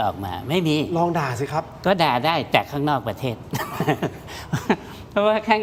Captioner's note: laughter